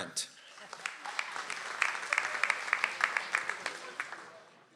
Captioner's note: audience applauds